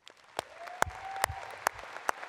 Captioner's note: applause